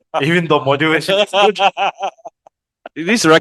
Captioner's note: laughters